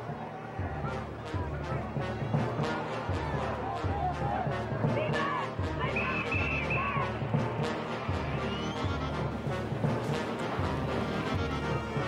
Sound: people shouting

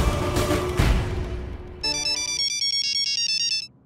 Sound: cellphone ringing

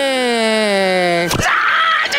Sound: screaming

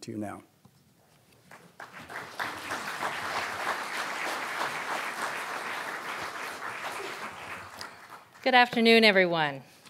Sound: applause

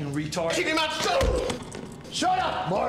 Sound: grunts

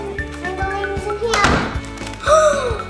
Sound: door closing; gasps

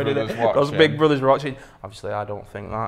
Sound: laughs

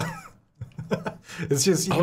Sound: laughing

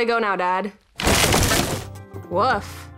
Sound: wood creaking

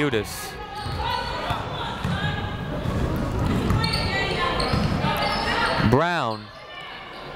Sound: people shouting in the crowd

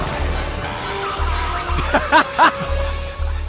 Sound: Nazi screaming; laughing

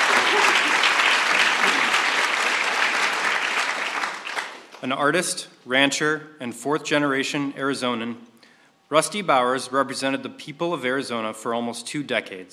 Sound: applause

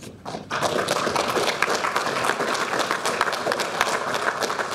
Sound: audience applauding

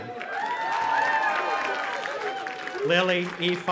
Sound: audience applauding and cheering

